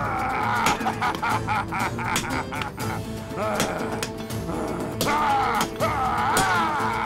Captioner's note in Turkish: Noyan haykırma sesi